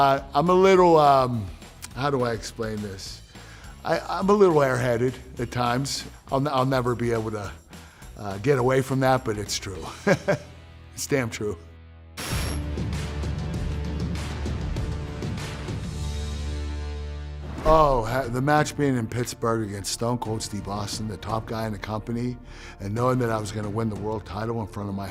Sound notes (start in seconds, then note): 10.2 laugh